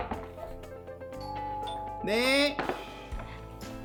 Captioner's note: just then, the doorbell rings